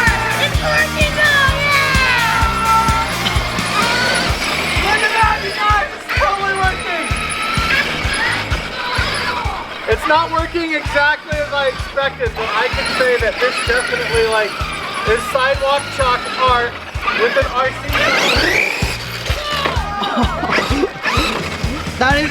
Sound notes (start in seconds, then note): 4.3 RC Truck revving; 18.7 RC Truck accelerates; 19.7 all exclaiming